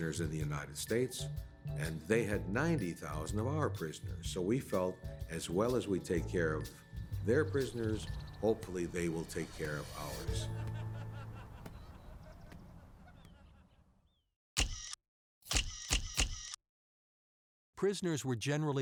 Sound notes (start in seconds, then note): 13.4 camera capture sounds